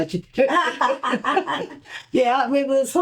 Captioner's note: laughter